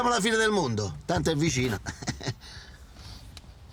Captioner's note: Furia giggling